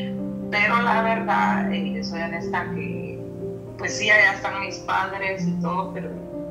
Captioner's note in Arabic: تتحدث بلغة أجنبية